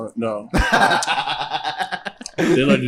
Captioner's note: laughs